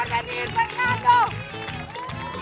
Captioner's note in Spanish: Ovación